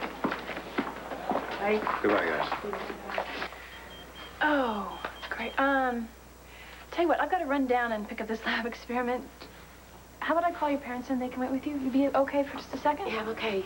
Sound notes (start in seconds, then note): 6.4 pager beeps